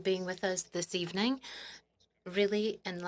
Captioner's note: speaking French